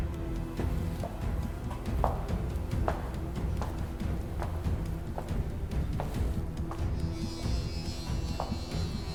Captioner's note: heels clicking